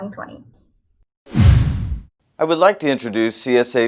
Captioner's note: resonating boom; whoosh